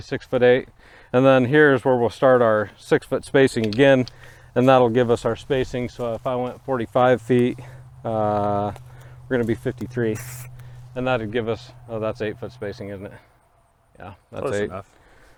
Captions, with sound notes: six foot eight. And then here's where we'll start our six foot spacing again. And that'll give us our spacing. So if I went 45 feet, we're going to be at 53 (Paint sprays) and that would give us. That's eight foot spacing isn't it? - Yeah, close enough.